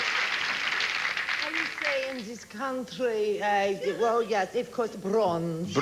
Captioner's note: spanish accent